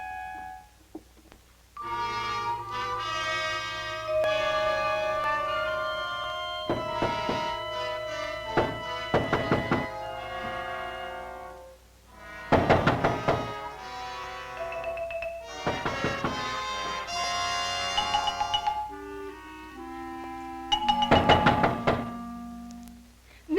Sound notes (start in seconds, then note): 6.6 knocking